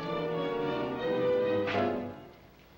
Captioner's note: slapplng